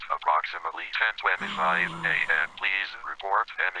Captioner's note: awed gasp